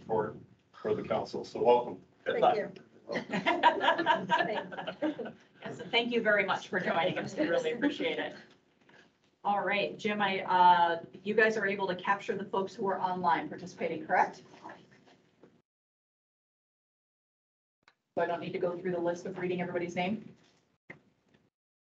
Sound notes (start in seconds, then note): 3.1 laughter